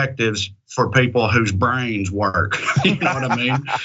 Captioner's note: laugh